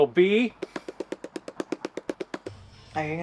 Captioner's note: Geoph drumming on notebook